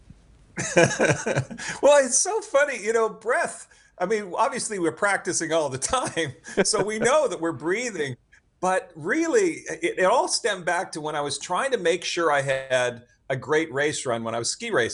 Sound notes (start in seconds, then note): 0.6 chuckles; 5.8 laughs